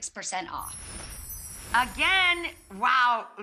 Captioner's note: twinkles